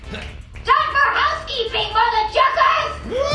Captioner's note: screaming